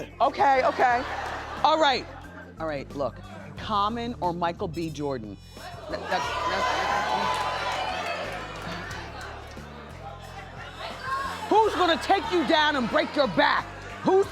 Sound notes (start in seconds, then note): 5.8 cheering